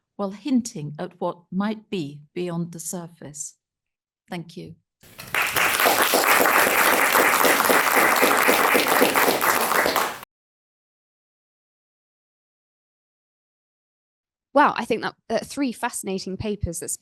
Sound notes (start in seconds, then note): 5.1 attendees applauding